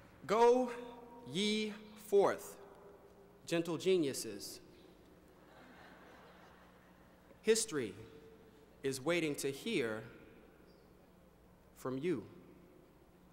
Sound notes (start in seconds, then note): 5.3 laughter